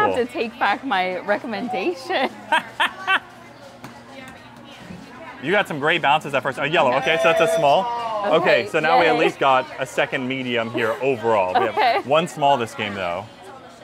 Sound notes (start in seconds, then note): 2.6 laughing; 7.0 bell dinging